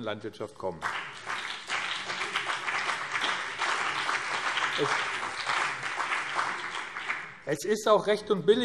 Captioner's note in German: Beifall BÜNDNIS 90/DIE GRÜNEN und CDU